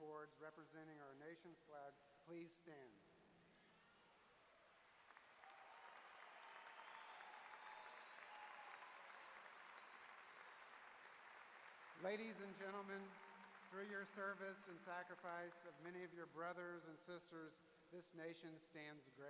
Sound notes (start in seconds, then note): 4.7 applause